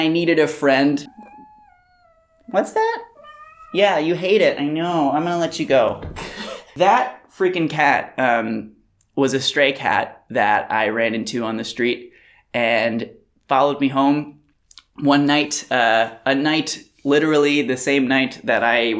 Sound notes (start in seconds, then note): 0.9 angery meowl; 0.9 angry meowing